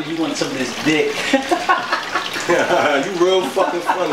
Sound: giggle

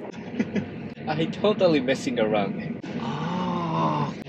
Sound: chuckle

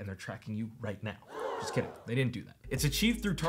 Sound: audience gasping

